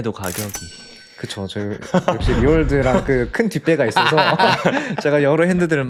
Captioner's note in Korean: 웃음